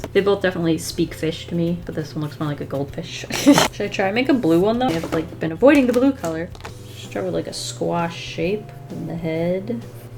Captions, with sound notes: They both definitely speak fish to me but this one looks more like a goldfish. [Laughs] Should I try make a blue one though? I've like been avoiding the blue color. Draw like a squash shape in the head.